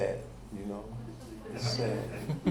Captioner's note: audience laughing